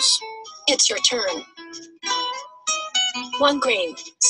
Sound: voiceover

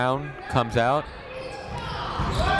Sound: cheering

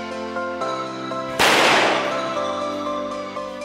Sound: firework Explosion

